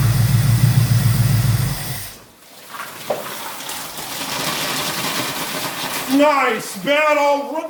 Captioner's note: engine idling; engine stops & coolant gushes